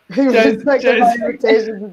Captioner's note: laugh; murmurs